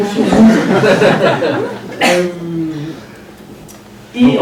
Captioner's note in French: rires